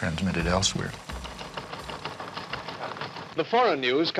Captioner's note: teletype machine rattling